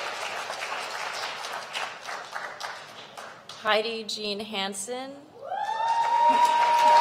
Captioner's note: applause